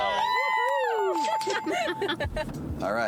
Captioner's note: bells ringing; laughing